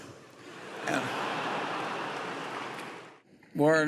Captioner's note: laughter